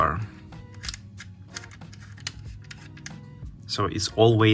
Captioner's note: bus bar clicks